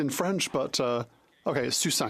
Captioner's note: speaking French